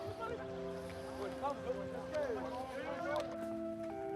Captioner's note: boys chatter indistinctly; pensive music